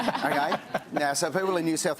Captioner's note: laughter